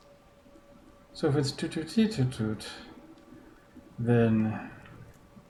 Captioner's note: imitates notes